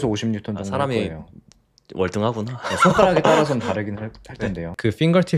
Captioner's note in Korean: 웃음